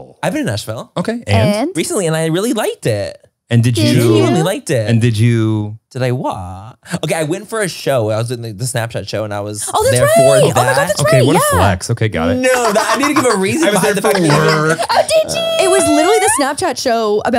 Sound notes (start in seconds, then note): 14.0 everyone laughs